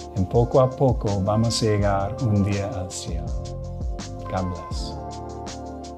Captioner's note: speaking in foreign language; upbeat music